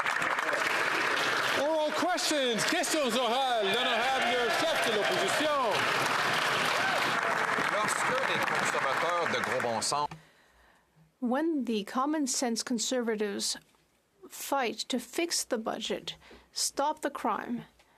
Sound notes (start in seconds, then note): 2.6 some Applause; 5.9 speaking French